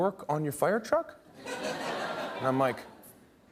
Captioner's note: laughter